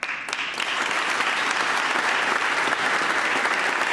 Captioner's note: applause